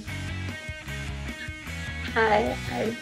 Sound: late-night TV voice

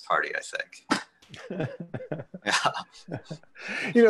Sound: laughter

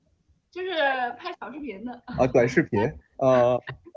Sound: teasing tone

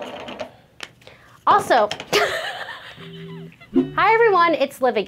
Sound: laughs

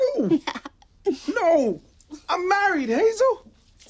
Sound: laughs

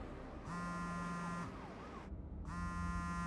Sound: cell phone vibrating

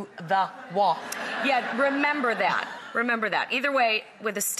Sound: laughter

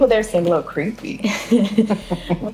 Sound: Alli laughs

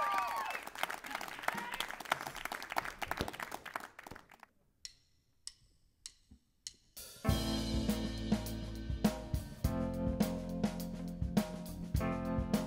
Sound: applause

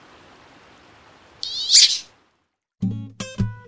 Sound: shrill duck quack

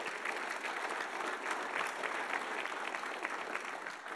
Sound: audience applauding

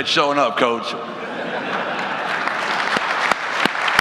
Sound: audience laughs; audience applauds

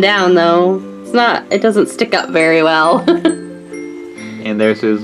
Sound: laughs

